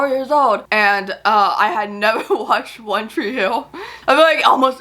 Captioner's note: laughs